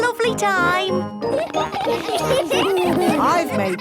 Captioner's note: laughter